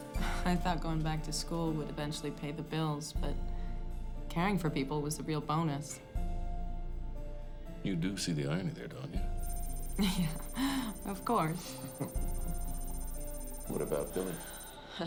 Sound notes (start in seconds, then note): 11.3 chuckles